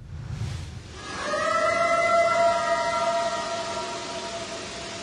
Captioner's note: eerie howl